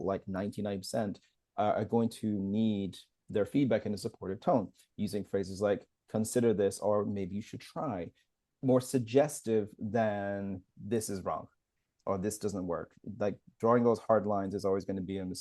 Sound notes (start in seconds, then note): none